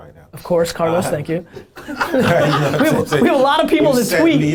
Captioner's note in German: Lachen